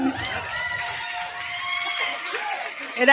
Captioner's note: cheers, applause